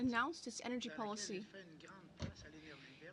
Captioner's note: speaking French